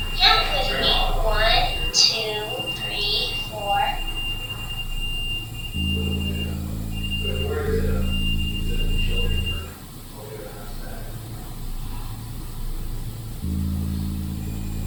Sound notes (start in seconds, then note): 4.1 REM-Pod beeping; 11.6 suspenseful music